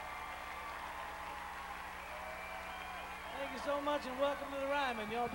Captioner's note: crowd cheering